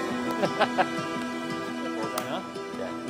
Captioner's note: laughter